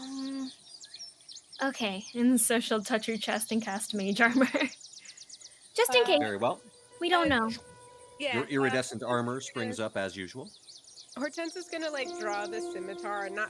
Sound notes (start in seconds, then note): 5.9 chuckles